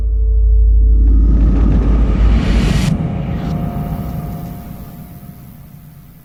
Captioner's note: dissonant whoosh